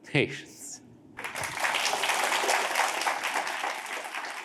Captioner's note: applause